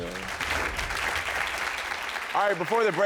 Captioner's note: audience claps